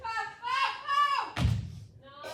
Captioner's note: thud